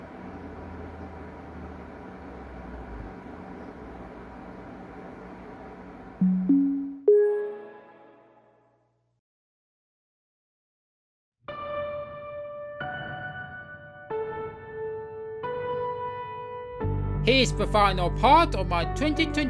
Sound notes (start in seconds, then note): 0.0 pc fans spinning; 6.2 windows 11 startup sound